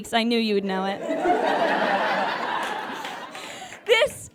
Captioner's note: audience laughs heartily